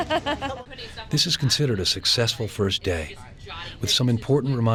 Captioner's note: laughs; voiceover